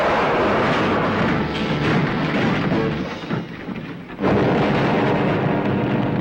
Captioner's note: car thudding and rolling; car booming and exploding